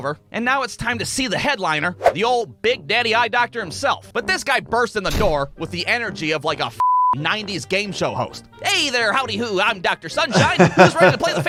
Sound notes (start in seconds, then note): 2.1 screen whooshing; 5.1 door bursting; 6.8 beep; 10.3 laughing